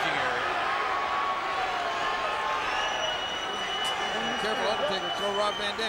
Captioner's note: crowd cheering